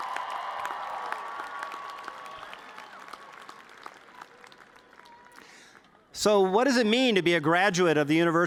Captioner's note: cheers